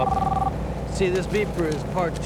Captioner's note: phone ringing